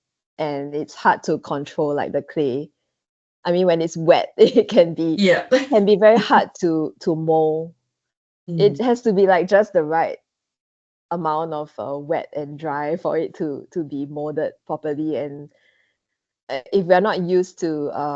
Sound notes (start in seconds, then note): 5.2 laughs